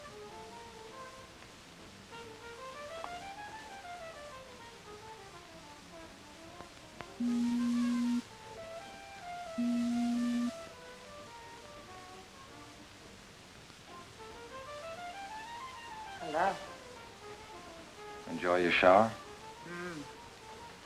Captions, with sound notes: (beeping) - Hello. - Enjoy your shower? - Mmm.